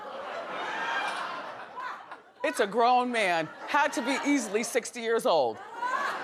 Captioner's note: audience laughing